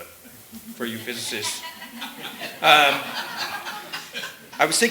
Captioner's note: laughter